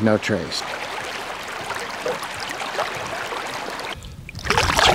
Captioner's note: water flowing